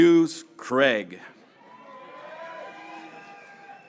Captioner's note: graduates cheering